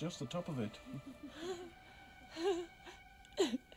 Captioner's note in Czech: petunie se směje